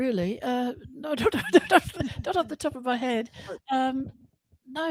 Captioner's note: laughter